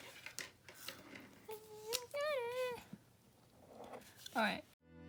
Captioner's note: humming the rest of the line